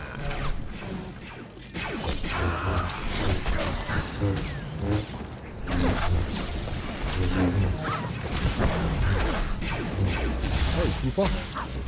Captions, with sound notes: [gunshots] Hey, trooper.